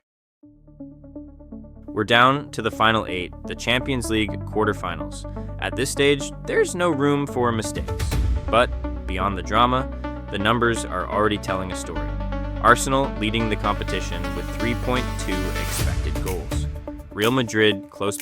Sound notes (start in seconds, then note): 0.1 upbeat music; 8.0 dramatic thud